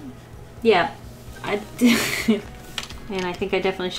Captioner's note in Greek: Γέλια